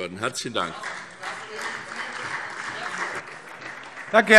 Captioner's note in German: Beifall : Das dementiere ich aufs Schärfste!